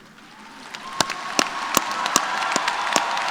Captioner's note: applause